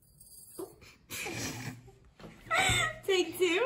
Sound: laughter

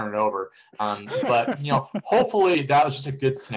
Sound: laughter

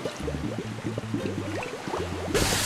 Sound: bubbles sound; water sound

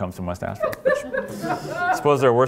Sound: laughter

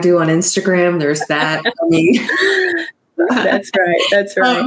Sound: laughing

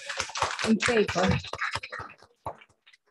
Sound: applause

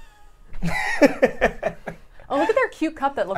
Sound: laughs

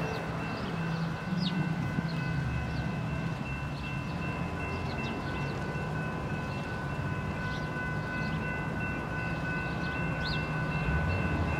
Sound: wind

